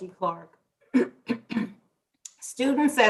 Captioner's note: clears throat